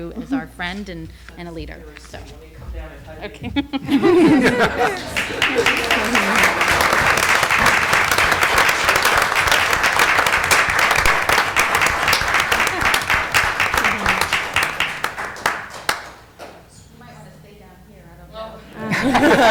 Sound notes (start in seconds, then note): 6.1 laughter; 6.9 applause